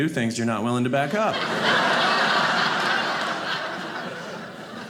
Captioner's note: audience laughing